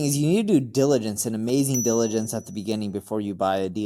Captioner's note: bell chimes